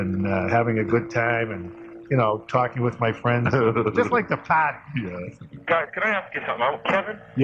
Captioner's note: chuckles